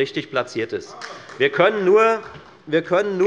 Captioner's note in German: Demonstrativer Beifall des Abg